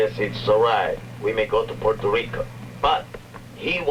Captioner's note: speaking spanish